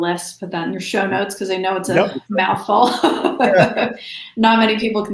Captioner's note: laughs